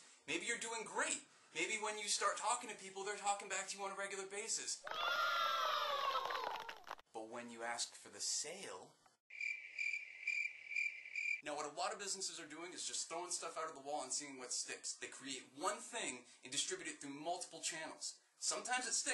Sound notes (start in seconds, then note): 9.3 crickets chirping